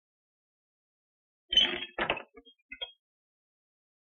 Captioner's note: clattering